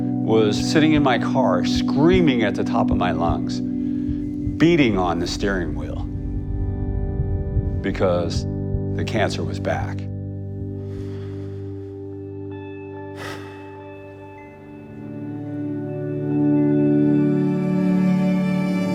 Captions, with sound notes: was sitting in my car screaming at the top of my lungs, beating on the steering wheel because the cancer was back. [sighs]